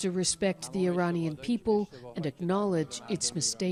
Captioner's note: speaking Alternate Language